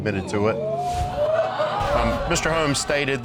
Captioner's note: audience exclaiming